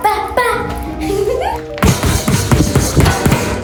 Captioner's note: giggles